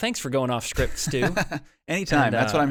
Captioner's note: laughs